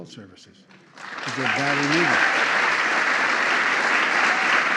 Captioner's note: applause